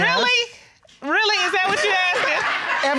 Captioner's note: audience laughs